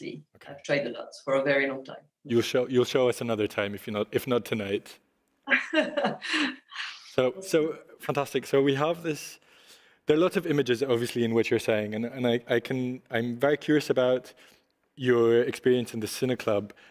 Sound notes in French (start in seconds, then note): 5.4 rires